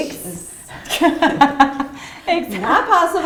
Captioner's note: laughs